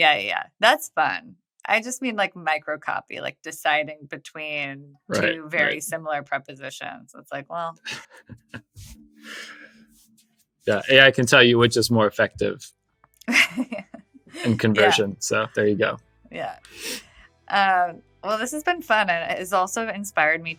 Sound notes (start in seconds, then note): 14.3 <Laugh>; 15.0 theme fades in